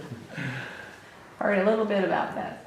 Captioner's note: laughter